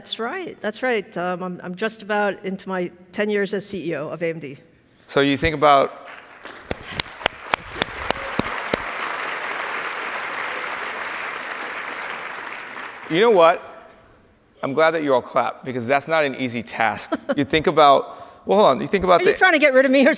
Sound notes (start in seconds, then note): 6.0 audience applauds